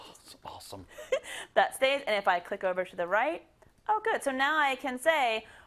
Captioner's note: laugh